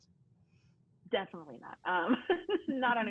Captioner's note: laughing